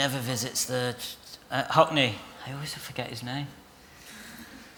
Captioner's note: laughter